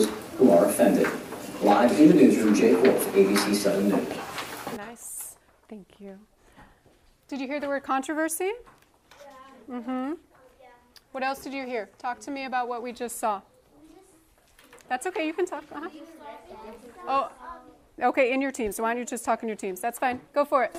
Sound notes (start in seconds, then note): 14.8 students talking all at once